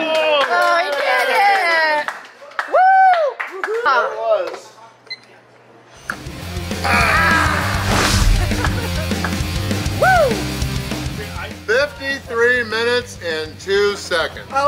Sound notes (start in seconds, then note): 0.0 cheering & Clapping; 6.8 ahhhh!!